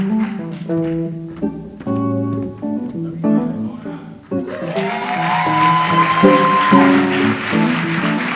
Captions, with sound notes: jhkhjkhjk.h (audience applauds)